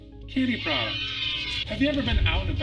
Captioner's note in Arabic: الأطفال يهتفون